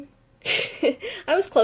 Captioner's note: laughs